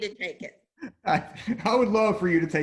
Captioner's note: laughs